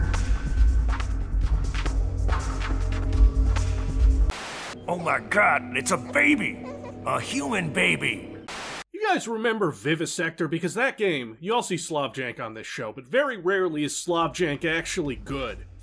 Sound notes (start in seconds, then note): 4.2 TV buzzing; 4.7 hammy GENERAL DOGSTONE; 8.5 TV buzzing